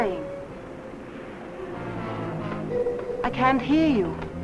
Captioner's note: faint muffled chatter